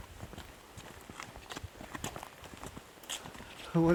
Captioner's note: footsteps